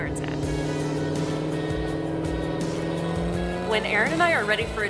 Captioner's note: engine revving